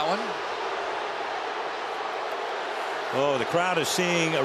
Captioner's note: crowd clamoring